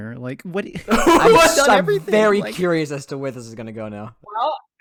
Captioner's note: laughing